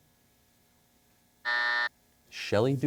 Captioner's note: buzzer sounds